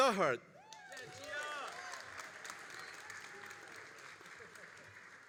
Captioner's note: all applauding and cheering